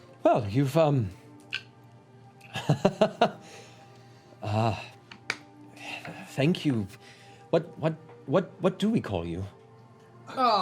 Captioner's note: laughs